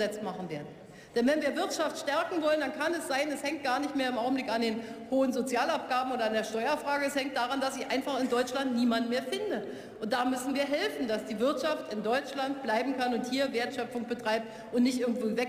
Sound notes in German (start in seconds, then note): none